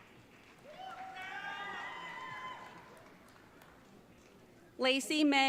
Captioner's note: audience cheering